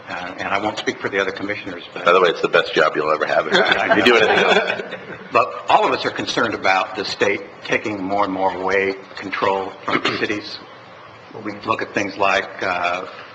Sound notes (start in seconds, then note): 3.2 laughter